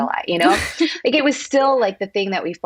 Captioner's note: laughs